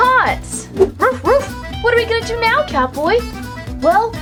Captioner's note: dog barks